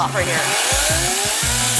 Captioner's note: chainsaw whirring